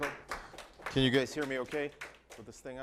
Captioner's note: group applauding